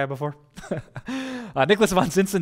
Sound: pastor: Laughter

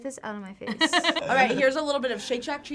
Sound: laughs

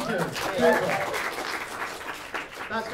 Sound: applause

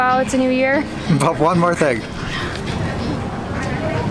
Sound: chuckles

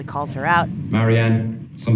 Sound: soundbite of tv show, "normal people"

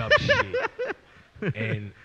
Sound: laughs

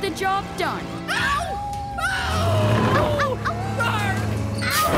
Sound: screaming and howling

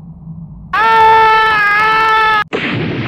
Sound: Fox screams

